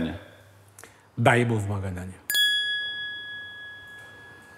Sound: ding sound

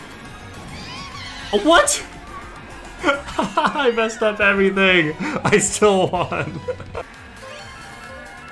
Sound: laughs

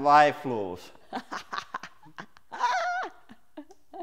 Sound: laughs

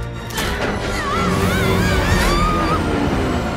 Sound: screaming

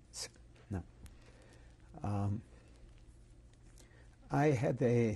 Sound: pauses for 3 seconds

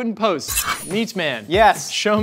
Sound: knife slices

